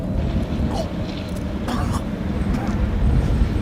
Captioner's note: vomits and chokes